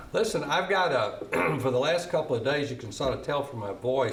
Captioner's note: clearing throat